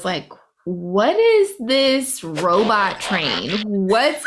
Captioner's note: transformer transforming noise